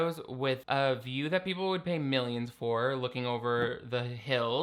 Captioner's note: none